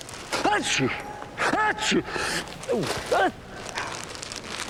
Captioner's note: sneezing twice